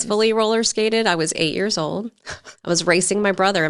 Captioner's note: chuckling